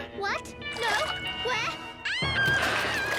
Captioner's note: Max shrieking